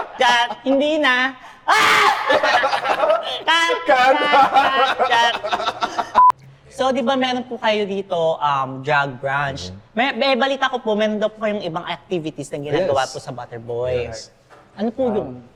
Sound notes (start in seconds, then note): 1.6 bursts into laughter; 5.0 laughs